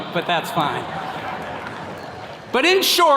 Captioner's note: attendees laughing